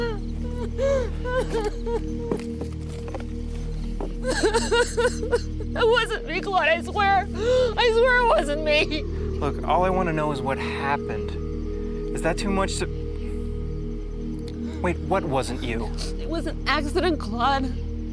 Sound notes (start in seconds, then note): 0.0 crying; 4.2 crying